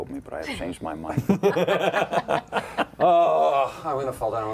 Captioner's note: laughter